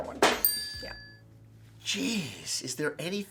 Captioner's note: bell dinging